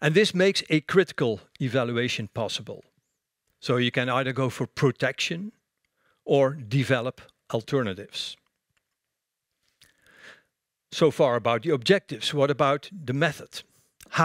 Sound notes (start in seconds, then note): none